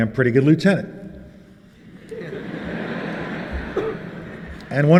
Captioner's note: laughter